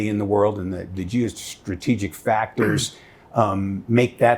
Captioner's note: clearing throat